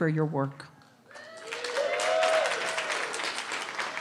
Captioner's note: cheering